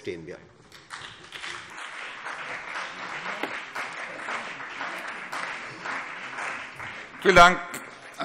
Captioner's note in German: Beifall CDU, BÜNDNIS 90/DIE GRÜNEN und DIE LINKE